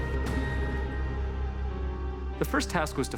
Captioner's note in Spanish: toque de bocina